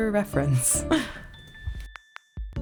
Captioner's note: laugh